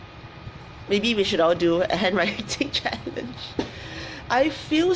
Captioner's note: laughs